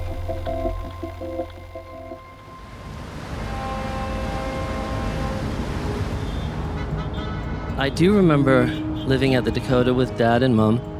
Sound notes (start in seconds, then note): 0.2 music fades out; 3.2 fog horn blaring